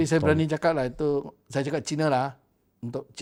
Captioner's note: Cantonese